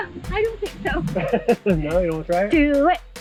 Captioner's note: laughing